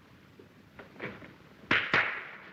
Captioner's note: clapping